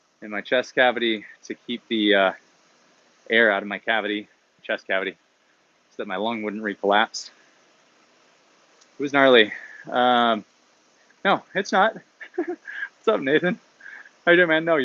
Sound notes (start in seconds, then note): 11.9 laughs